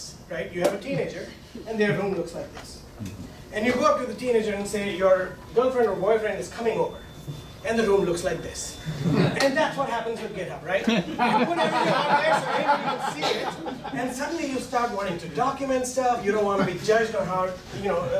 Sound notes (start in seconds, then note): 10.8 laughing